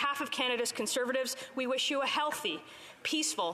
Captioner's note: speaking alternate language